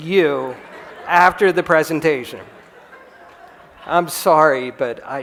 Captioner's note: laughter